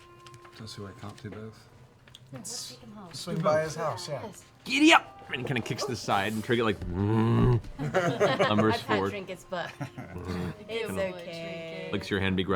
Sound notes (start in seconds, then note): 6.8 grunts